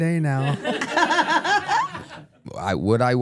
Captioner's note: everyone laughs